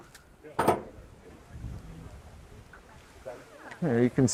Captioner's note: door opening